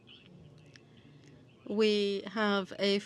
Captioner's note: speaking French